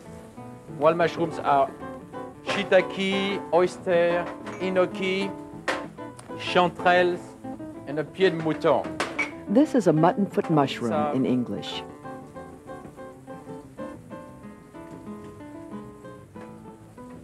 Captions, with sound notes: Wild mushrooms are shiitake, oyster, enokitake, chanterelles, and pied de mouton. - [Voiceover] This is a mutton foot mushroom in English. (mellow music)